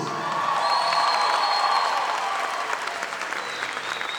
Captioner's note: audience applauding